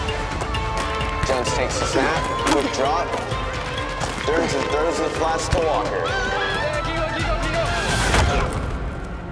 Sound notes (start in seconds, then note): 5.1 crowd cheering